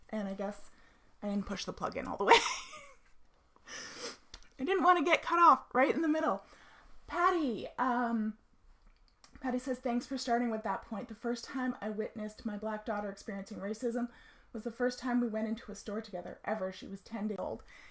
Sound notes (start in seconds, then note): 2.3 laughs